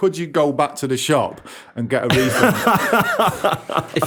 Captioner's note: laughter